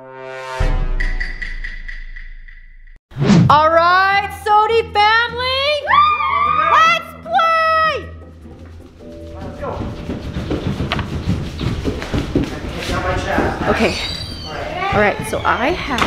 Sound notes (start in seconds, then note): 0.1 tuba blast followed by dramatic banging; 5.8 cheering; 8.4 background noise as family members walk away